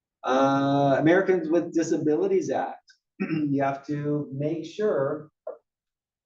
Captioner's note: cough